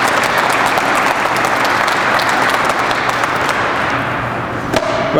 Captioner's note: crowd applauds